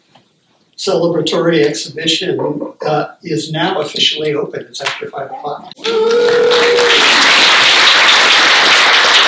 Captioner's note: cheers and applause